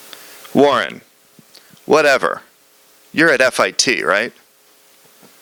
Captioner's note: reading from script